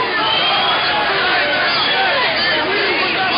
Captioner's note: voiceover; shouting